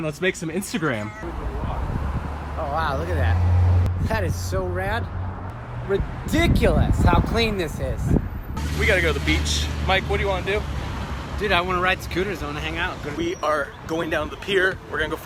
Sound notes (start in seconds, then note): 1.2 car engine; 7.9 wind blowing